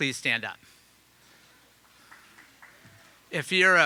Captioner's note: audience applauding